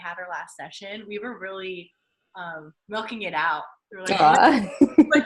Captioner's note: laughing